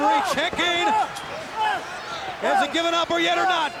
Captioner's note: referee yelling